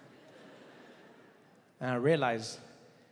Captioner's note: audience laughing